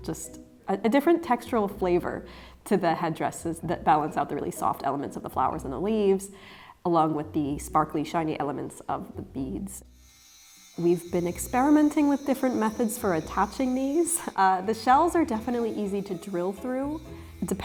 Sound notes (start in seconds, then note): 10.0 drill buzzing